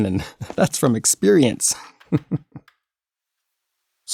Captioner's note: chuckling